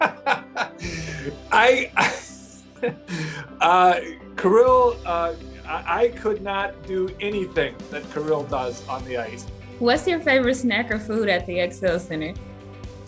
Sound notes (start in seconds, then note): 0.0 laugher